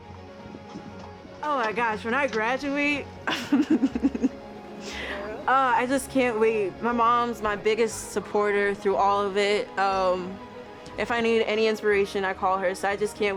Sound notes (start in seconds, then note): 3.2 laughs